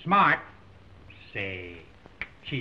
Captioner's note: fingers snap